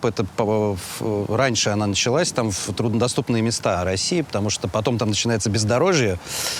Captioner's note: none